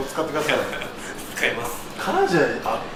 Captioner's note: laughs